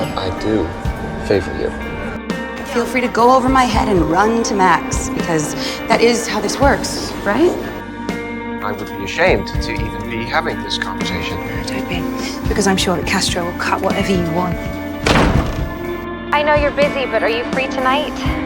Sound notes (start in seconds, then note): 2.8 voiceover; 8.8 voiceover; 14.5 door shuts; 16.6 voiceover